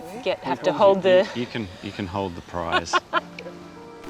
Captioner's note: laughs